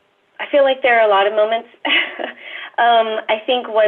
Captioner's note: laughs